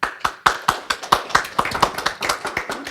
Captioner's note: applause